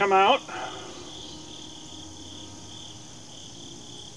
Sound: crickets chirping

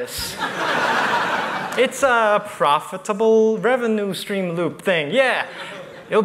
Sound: laughter

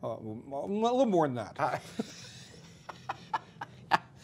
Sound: laughter

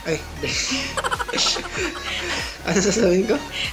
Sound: laughs

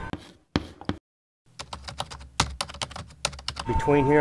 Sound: chalk thumping; keyboard clicking

